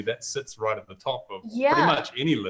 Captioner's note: laughing